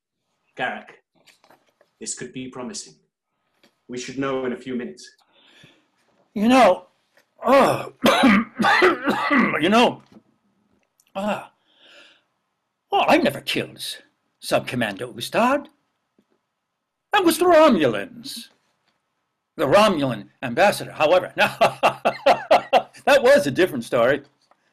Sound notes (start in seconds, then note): 7.4 coughs; 21.3 laughs; 24.5 coughing